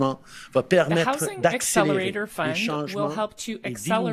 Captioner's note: speaking French